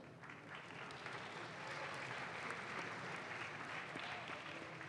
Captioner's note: audience claps